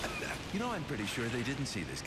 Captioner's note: coughs